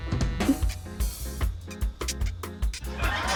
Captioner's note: pasta squeaks; audience laughs, exclaims